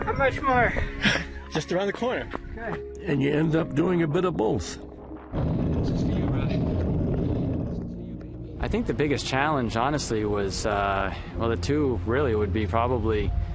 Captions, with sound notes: - How much more? - Just around the corner. - Good. - And you end up doing a bit of both. (wind blowing) I think the biggest challenge honestly was, well the two really would be probably